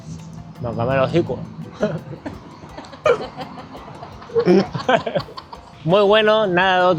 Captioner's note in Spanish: risas